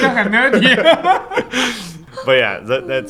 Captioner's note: laughter